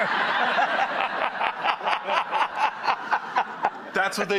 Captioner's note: audience laughing; laughs